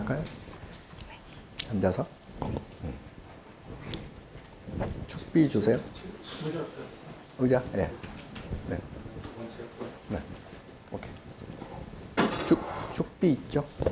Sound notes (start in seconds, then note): 0.2 speaking Korean; 6.5 assistant speaking Korean; 7.8 speaking Korean